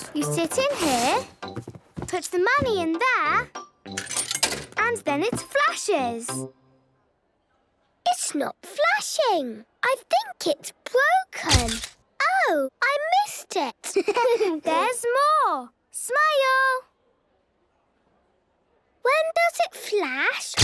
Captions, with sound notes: - You sit in here... Put the money in there... - (coin tumbling) - And then it flashes. - It's not flashing! I think it's broken. - (camera clicks) - Oh! I missed it. - (giggling) There's more! Smile! - (silence) - When does it flash?